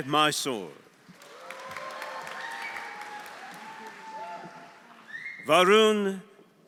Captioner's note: audience applauding; audience cheering